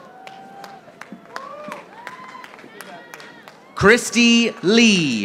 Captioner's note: audience applauding